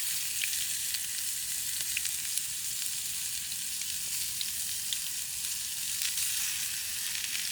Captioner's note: sounds of food frying